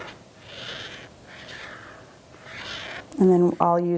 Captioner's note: marker squeaking